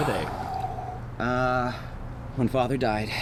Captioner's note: Anubis sighing